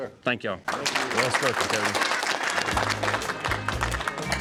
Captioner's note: applause